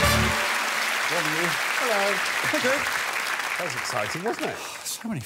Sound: audience applause

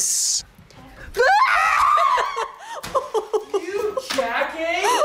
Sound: lady screams and laughs

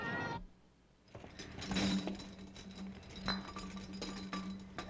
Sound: bottles clanking

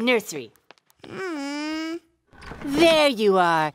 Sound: whining

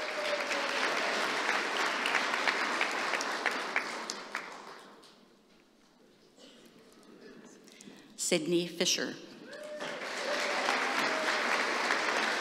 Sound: applause

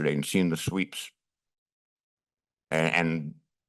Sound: pause

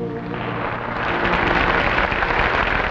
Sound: audience applauding

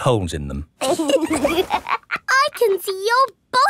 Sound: laughs

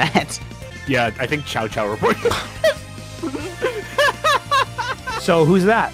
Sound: laughs

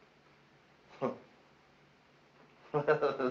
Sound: chuckles

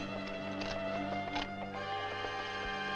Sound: cocks rifle

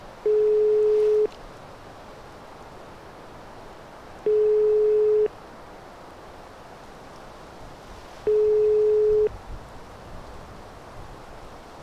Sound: phone rings

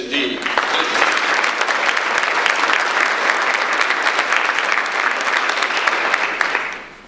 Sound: audience applause

